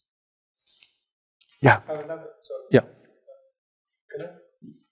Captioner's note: pause